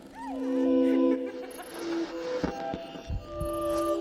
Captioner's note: laughing